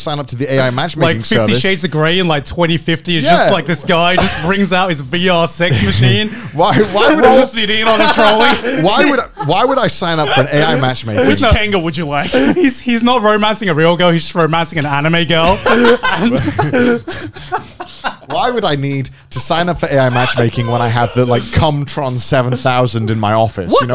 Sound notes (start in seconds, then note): 5.6 laughing; 15.4 laughing